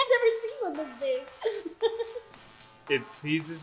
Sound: giggles

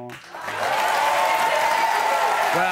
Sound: audience cheers

